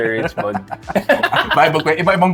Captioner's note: laughs